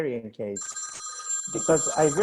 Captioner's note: phone ringing